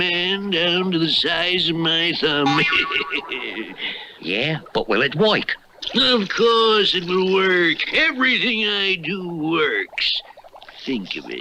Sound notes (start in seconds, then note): 2.4 Simon Bar Sinister Laughs